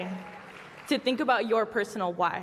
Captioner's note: applause